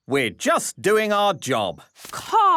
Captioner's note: none